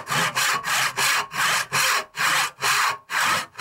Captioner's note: saw scrapes